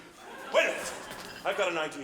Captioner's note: audience laughs